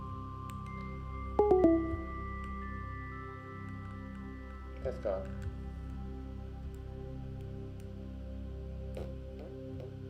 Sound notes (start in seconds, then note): 1.4 computer notification chiming; 6.8 gentle calming music